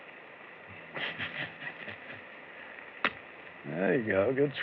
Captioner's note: chuckles